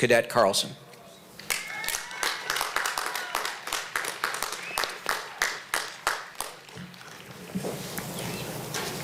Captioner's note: applause